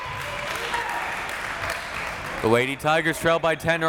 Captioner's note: crowd clapping